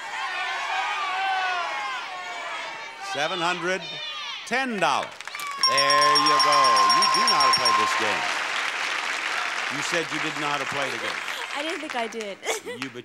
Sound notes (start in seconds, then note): 0.0 audience shouting numbers; 5.6 bell dings; 8.7 audience applauds